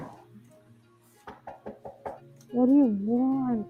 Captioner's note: knocking